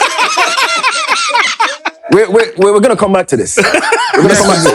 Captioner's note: laughter